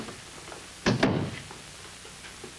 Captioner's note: door closes